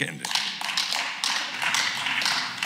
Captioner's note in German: Beifall